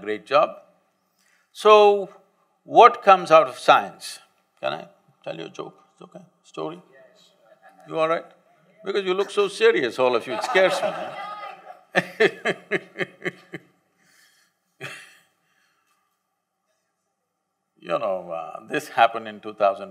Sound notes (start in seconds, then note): 14.7 laughter; 14.8 laughs